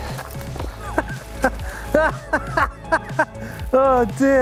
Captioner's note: laughs